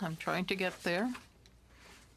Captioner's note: speaking french